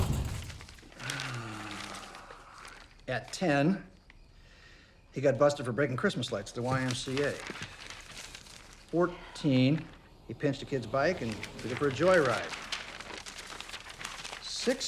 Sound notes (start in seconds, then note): 1.0 Eddie exhales